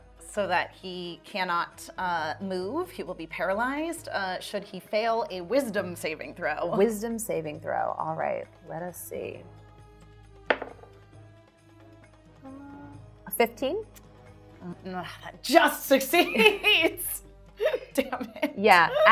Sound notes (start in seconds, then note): 10.5 dice thudding; 11.9 intense music